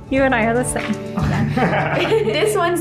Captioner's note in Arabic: يضحك